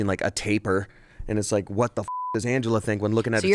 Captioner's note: beep